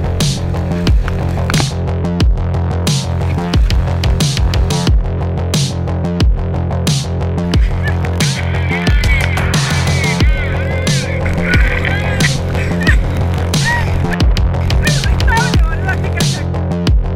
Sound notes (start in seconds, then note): 8.2 cheering